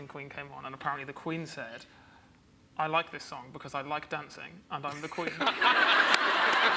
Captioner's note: laughs